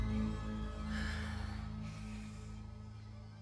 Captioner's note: exhales